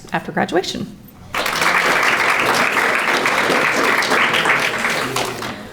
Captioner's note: audience applauding